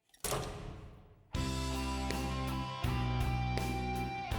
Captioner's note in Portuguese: electricity shutting down